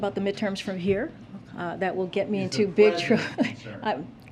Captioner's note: laughs